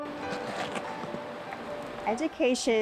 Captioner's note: inspirational music; scraping